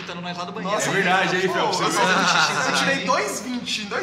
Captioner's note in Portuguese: Risos